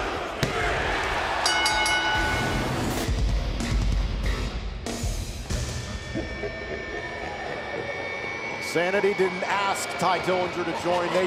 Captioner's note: bell ringing